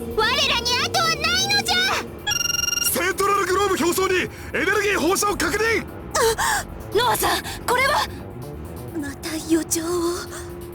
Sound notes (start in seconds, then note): 6.5 gasp